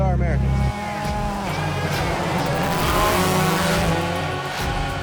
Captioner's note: engine revving